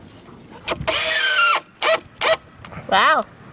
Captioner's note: drilling whirring